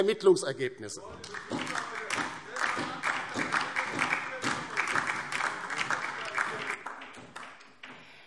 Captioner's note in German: Beifall DIE LINKE und SPD – Zurufe CDU